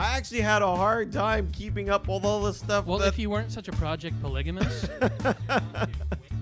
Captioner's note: laughs